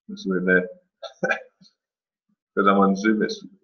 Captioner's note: chuckles